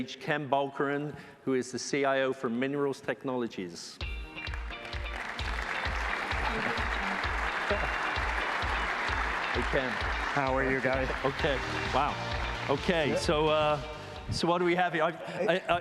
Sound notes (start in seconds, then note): 4.1 applause